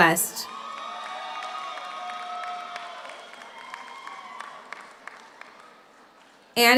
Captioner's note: audience cheers; audience applauds